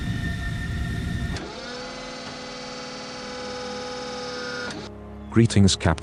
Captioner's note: door opens